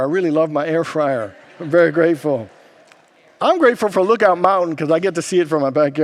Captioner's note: congregants laugh